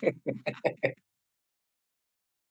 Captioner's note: both laughing